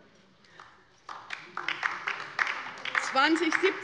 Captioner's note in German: Beifall bei der LINKEN